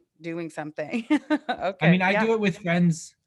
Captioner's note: chuckles